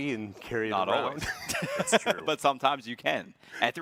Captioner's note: both chuckling